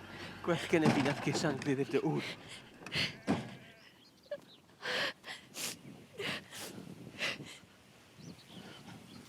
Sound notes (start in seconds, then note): 0.0 sound of a truck's engine; 3.2 truck doors slamming shut